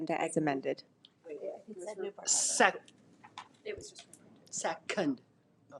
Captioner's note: trustees murmur